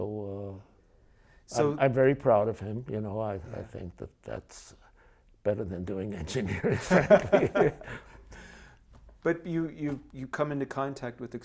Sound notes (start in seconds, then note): 6.3 laughing